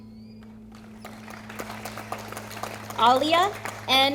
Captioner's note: audience applauding